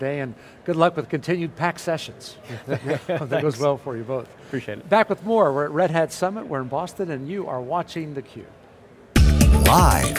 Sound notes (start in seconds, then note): 2.5 laughing; 9.1 upbeat music